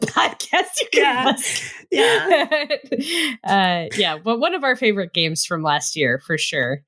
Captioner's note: laughter